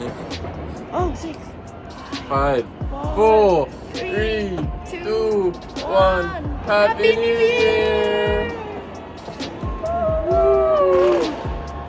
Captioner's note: can hear people counting down in the background